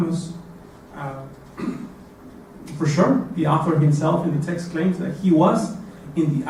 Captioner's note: cough